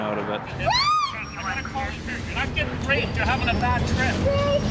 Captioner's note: screams